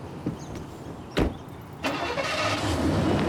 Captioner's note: engine turns over